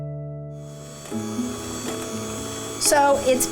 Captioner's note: mixer buzzing